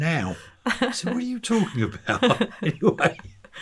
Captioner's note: chuckling